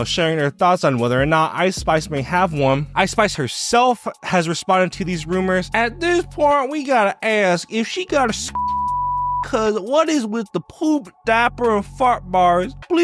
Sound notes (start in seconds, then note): 8.5 beep